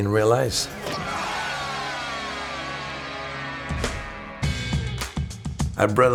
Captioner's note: crowd cheering; hero groaning